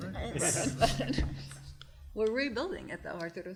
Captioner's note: group laughter